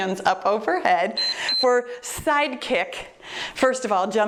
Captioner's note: timer beeps